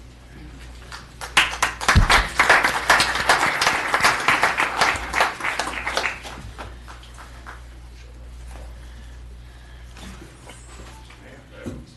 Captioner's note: applause